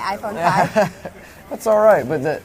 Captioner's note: laughing